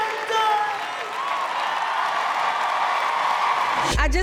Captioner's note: cheering